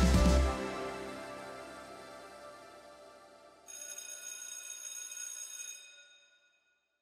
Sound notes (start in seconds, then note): 3.7 bell ringing